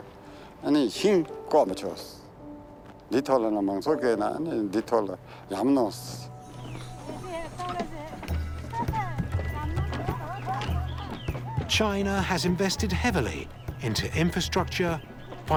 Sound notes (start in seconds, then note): 8.2 woman speaking Tibetan, laughing